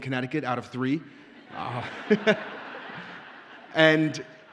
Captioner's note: audience laughs